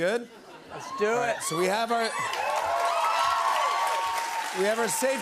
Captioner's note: cheers and applause